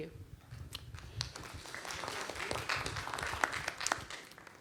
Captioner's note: applause